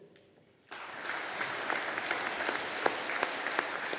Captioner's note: audience applauding